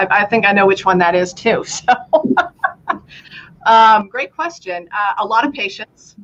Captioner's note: laughter